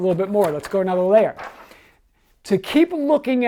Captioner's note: paper rustling